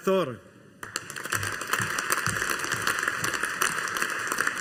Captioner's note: audience applauding